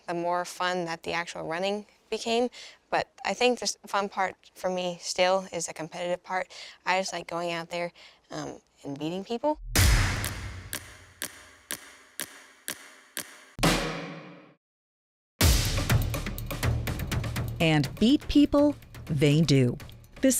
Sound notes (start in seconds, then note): 9.7 dramatic music; 9.8 gun fires